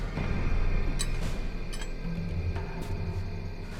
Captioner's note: grappling hook rattles; suspenseful music